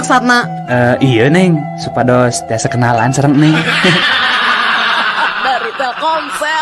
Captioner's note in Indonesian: tertawa